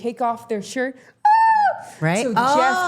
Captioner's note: Becky imitating ladies screaming